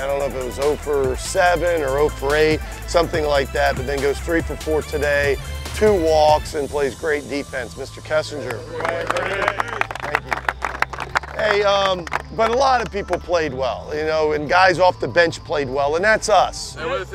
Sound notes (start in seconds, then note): 8.4 clapping